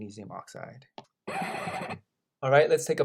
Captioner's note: screech